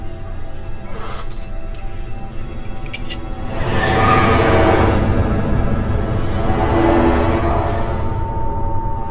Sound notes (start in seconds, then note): 0.0 dramatic music; 1.4 eerie whispering